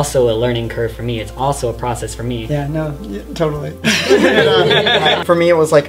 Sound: laughter

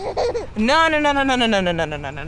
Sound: laughs

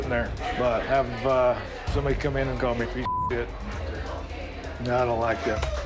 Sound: beep

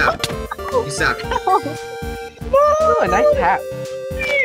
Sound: screaming

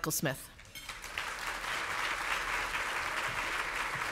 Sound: audience applauds

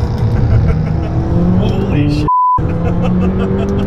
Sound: car engine roars; laughing; laughing

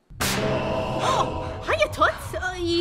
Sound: gasp

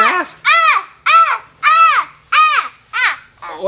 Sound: screaming

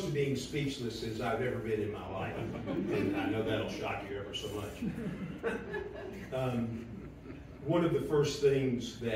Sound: laughter

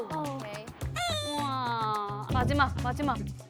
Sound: frustrated

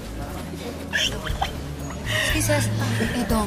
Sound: Aida giggling

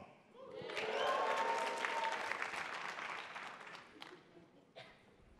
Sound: attendees applauding

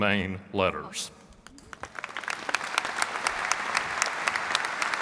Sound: audience clapping

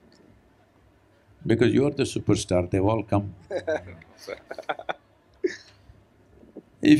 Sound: Siddhant laughs

